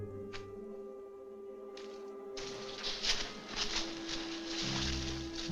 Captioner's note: bushes Rustling